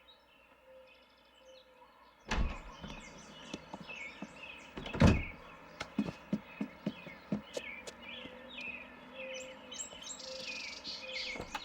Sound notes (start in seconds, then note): 2.3 birds chirping